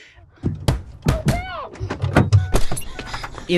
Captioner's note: banging on door